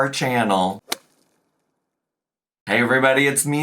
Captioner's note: golf club swings